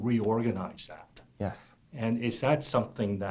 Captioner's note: voiceover